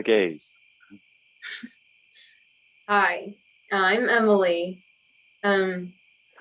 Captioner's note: Joseph whispers